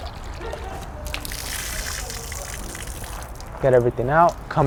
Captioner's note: water splatters